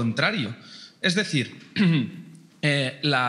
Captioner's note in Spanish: carraspea